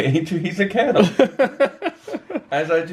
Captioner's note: chuckles; laughs